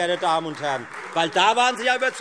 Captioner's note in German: Beifall Freie Demokraten und vereinzelt SPD